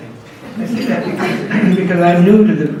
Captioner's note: audience laughs